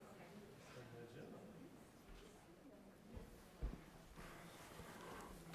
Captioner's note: people chattering indistinctly